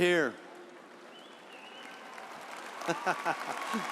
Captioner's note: audience cheering; laughing